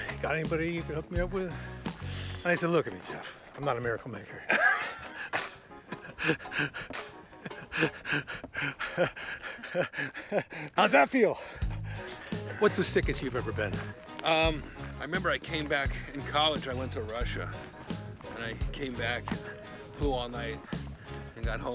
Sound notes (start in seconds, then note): 4.6 Jeff and Kevin laughing; 7.3 laughing